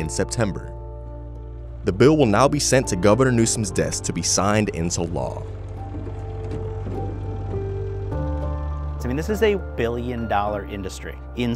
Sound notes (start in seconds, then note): 6.0 car engine roaring; 6.0 mellow music